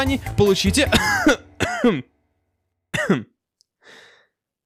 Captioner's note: cough